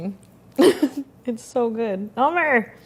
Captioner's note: speaking foreign language